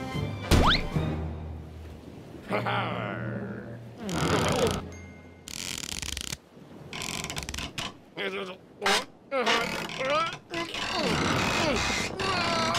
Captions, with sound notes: HA HARGH! OH! (board creaks) (muttering and straining) OH! OH! AAH!